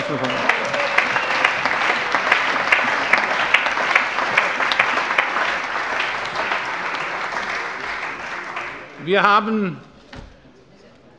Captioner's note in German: Allgemeiner Beifall